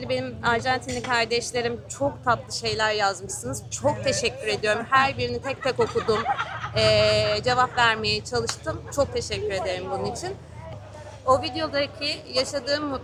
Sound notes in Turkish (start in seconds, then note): 5.4 kahkaha